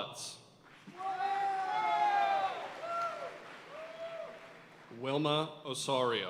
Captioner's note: audience cheering and applauding